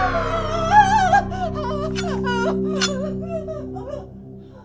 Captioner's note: dramatic music; Caroline screaming